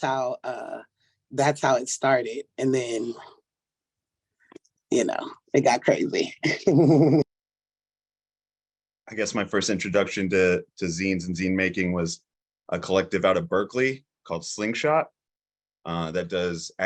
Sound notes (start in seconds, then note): 6.6 laughs